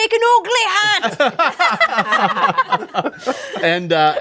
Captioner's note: group laughs